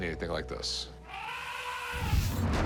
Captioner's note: elephant trumpets